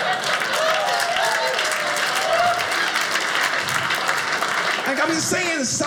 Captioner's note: audience laughing; audience applauding